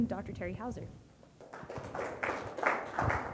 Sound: audience applauds

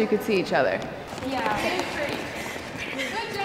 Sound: students chatter during practice

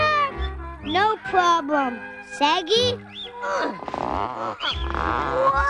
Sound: grunting

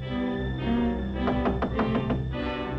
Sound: knocks

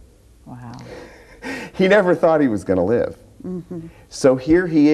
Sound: laughs

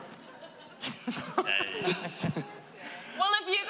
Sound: laughter

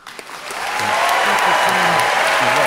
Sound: cheering, clapping

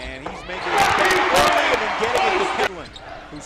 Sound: loud cheering

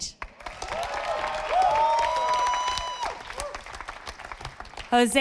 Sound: audience applauding

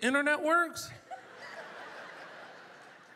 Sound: audience laughter

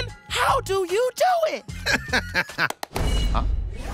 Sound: laughing

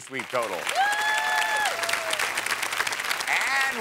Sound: cheers and applause

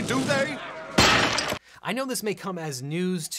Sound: toilet smashes

